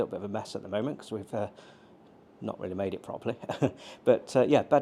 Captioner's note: chuckles